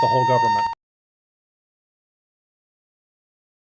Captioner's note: fire alarm